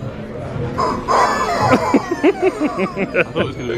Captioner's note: chickens squawking